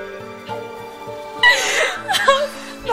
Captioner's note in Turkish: ağlama sesleri̇